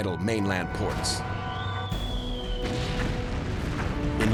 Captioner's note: artillery whistle